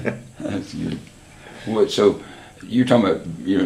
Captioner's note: laughs